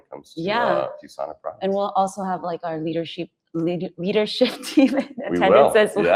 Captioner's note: laughs